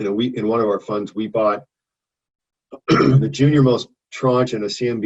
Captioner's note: clears throat